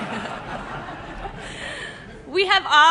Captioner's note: laughter